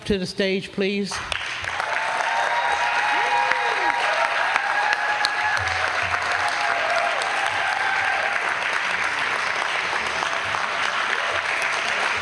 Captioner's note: applause